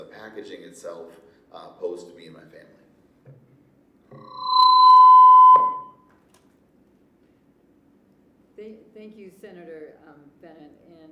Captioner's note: mic feedback